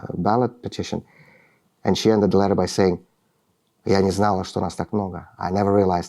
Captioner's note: speaking russian